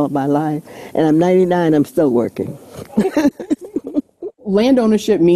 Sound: laughs

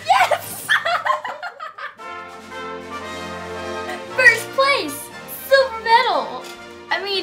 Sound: laugh

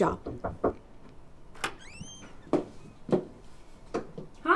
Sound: knocking on door

